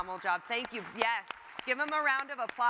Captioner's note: audience applauds